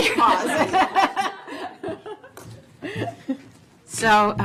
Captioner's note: laughter